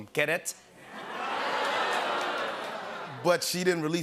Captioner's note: audience "Oohs"